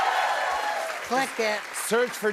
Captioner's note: cheers and applause